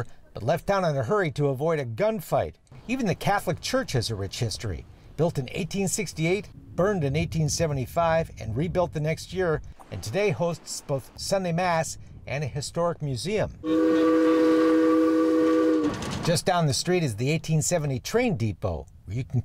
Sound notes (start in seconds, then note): 13.6 train whistle blowing